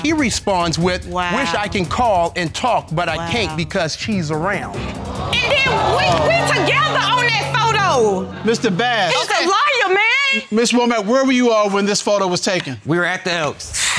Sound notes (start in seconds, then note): 4.8 audience exclaiming